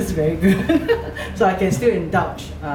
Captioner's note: laughs